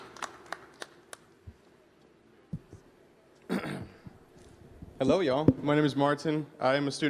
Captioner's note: applause